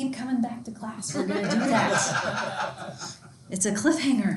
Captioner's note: students laughing